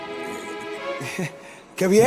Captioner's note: nervous laugh